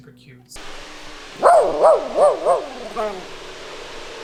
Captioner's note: barks